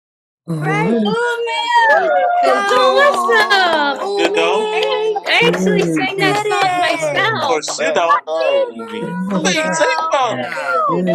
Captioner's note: applause